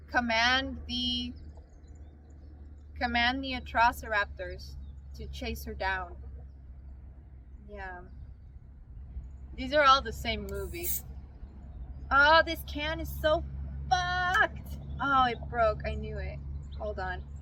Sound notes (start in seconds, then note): 10.5 dr pepper can cracks